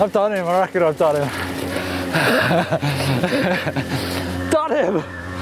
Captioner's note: laughs